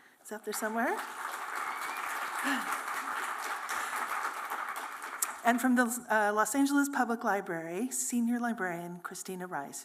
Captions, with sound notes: who's out there somewhere. [applause] From the Los Angeles Public Library, Senior Librarian Christina Rice,